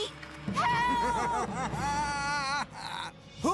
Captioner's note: Chris Chuckling